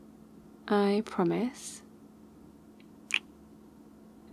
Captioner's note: kiss